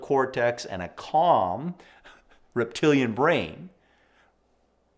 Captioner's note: chuckles